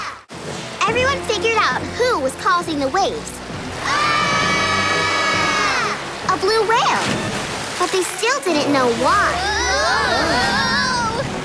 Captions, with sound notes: Everyone figured out who was causing the waves. [screaming] A Blue Whale! But they still didn't know why. Whoa!